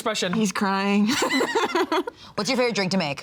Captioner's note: laughs